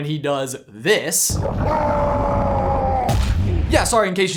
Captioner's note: yells loudly